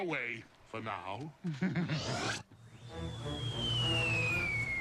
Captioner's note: chuckles